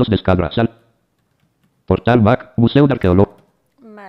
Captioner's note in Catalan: veu del lector de pantalla